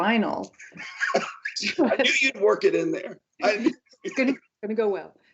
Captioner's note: laughs